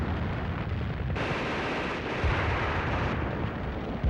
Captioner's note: gun firing